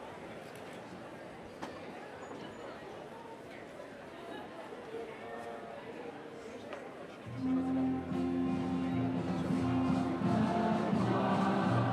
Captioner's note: cheers & applause